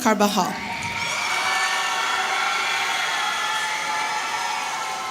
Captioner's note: audience cheering